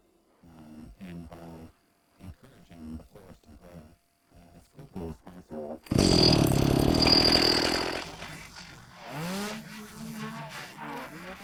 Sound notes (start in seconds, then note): 5.8 chainsaw whines